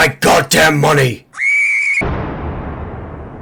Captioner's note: girly Screaming